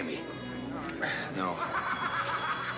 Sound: exhales deeply; men continue laughing

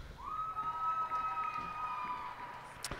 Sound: cheers and applause

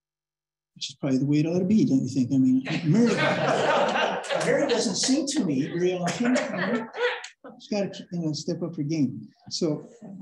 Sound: laughter

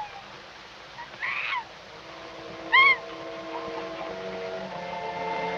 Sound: cheetah screaming

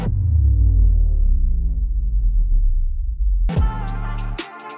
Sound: echoing vibration; dramatic thumping music

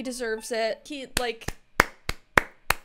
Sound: clapping

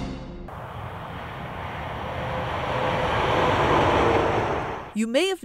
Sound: Traffic

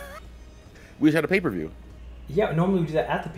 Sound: laugh

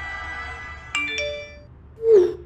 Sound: text alert

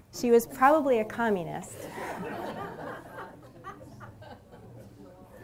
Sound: laughter

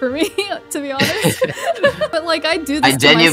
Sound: laughs

